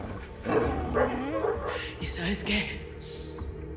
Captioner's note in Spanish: Ladridos